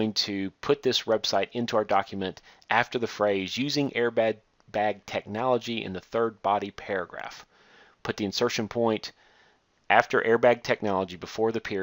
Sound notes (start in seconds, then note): none